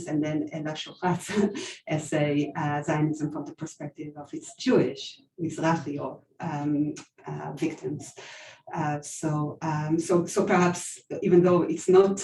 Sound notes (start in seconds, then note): 6.5 non-english